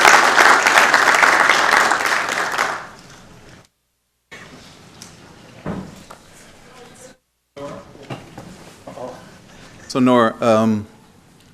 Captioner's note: applause